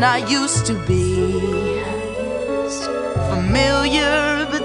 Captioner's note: Pebbles echo last words